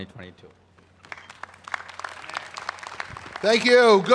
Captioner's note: applause